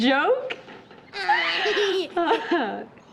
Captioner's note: laughing